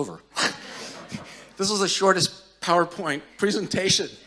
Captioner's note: audience chuckling